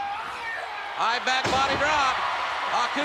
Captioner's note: spectators cheering